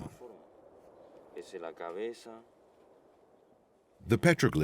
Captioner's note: man speaking Spanish